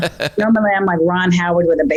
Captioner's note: laughs